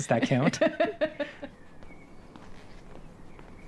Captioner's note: laughing